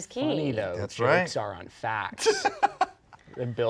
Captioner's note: laughing